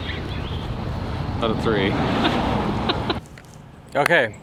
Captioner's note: woman chuckling